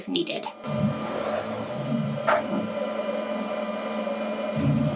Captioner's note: machine whirring